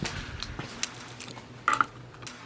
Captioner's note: keys rattling and rattling; klunk